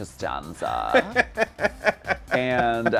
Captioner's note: laughing